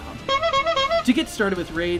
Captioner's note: honking